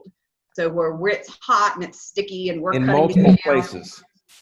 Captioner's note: murmurs